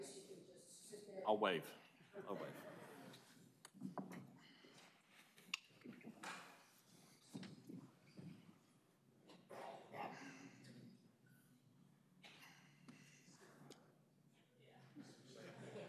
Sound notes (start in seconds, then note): 4.7 laughter